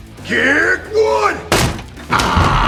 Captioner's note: door cracks